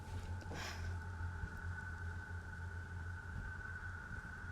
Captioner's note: Angelina gasps